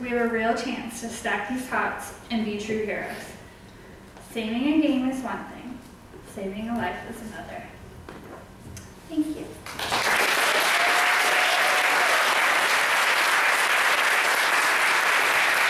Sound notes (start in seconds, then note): 9.7 audience applauds and cheers